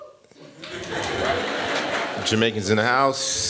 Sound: laughter

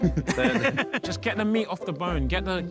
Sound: laughs

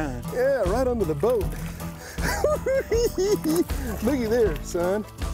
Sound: cackling

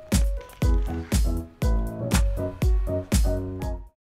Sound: chewing

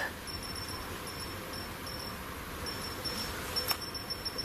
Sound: device beeps

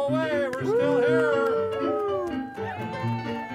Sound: clapping

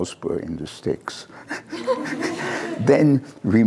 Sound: laughter

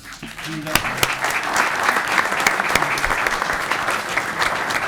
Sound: audience clapping

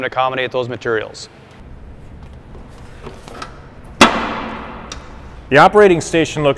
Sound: sound of the tool banging shut

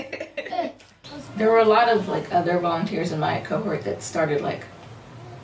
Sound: people talking

